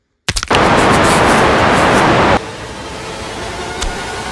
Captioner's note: hammer crunches and squishes something; scary static